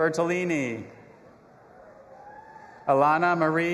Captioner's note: audience applauding and cheering